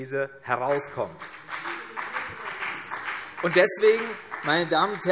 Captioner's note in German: Beifall CDU und vereinzelt BÜNDNIS 90/DIE GRÜNEN